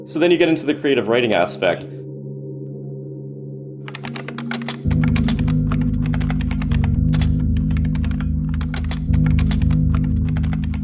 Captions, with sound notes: So then you get into the creative writing aspect. (ethereal music) (keys typing)